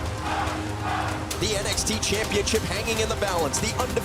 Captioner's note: crowd cheering